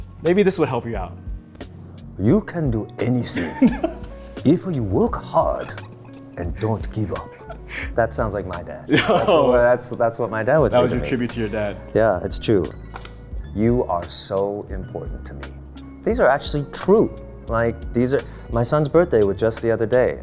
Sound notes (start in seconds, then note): 8.9 laughing